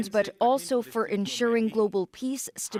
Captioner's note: speaking alternate language